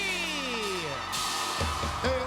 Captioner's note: cheers and applause